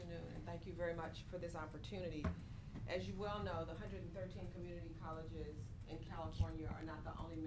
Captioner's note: off mic